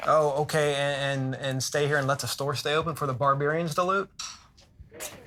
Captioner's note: none